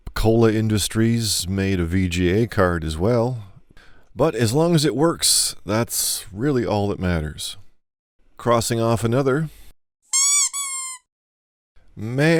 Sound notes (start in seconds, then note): 10.1 squeaky sound